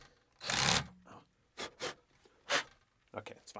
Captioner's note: power drill whirring